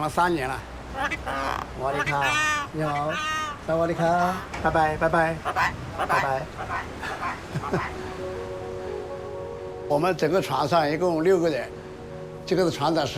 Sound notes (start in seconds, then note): 1.7 bird and speaking Chinese dialect; 5.2 in English; 5.4 bird